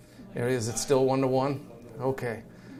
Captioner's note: man speaks softly